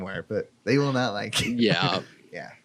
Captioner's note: laughs